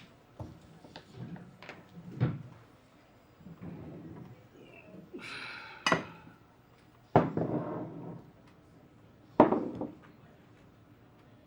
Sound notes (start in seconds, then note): 5.1 sighing